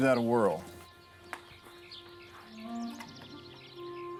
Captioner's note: birds chirping